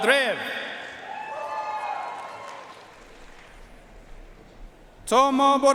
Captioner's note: audience cheering and applauding